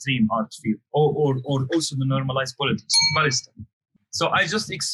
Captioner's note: bell message alert sound